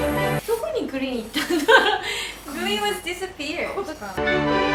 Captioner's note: laughs